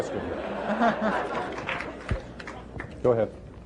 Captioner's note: laughter